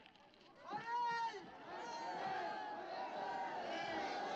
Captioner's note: cheering